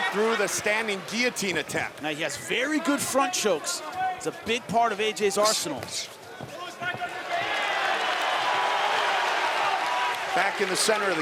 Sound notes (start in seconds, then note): 9.3 audience cheering